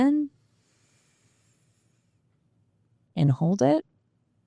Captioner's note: breathing